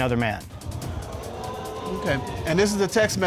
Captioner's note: audience exclaiming